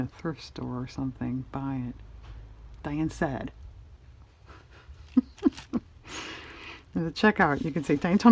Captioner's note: laughs